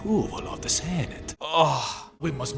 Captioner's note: groans